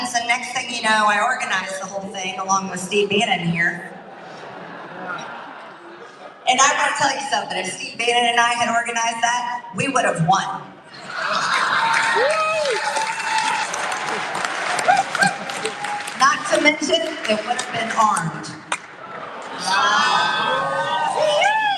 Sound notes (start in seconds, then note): 13.9 applause